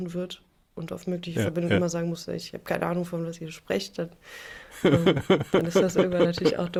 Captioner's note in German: gelächter